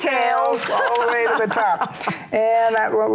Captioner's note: laughs